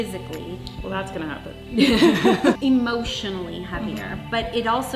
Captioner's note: laughing